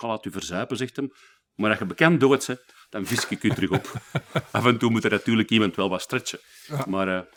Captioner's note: laughing